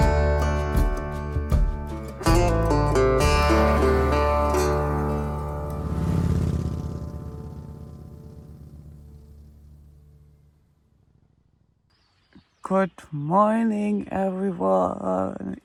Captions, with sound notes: (country music ends) (engine revs) - Good morning, everyone.